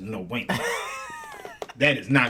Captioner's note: laughing